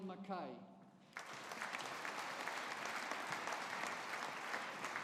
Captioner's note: audience applauding